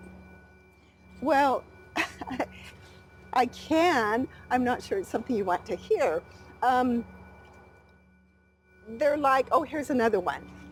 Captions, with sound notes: - Well, (laughing) I can, I'm not sure it's something you want to hear. They're like, oh, here's another one.